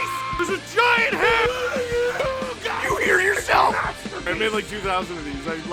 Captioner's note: Harry potter screaming; screaming